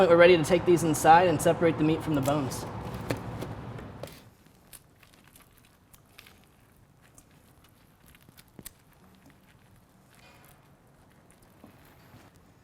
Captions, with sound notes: we're ready to take these inside and separate the meat from the bones. (meat squishing)